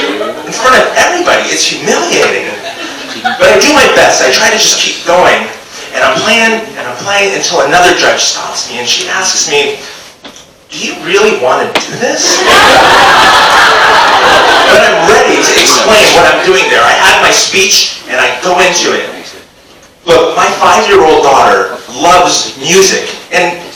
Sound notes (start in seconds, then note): 12.2 audience laughs